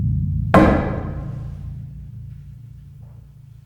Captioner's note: drum booms; pole thuds